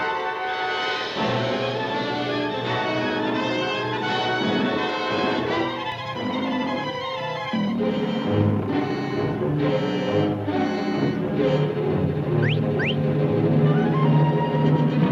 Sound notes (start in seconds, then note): 12.3 whistles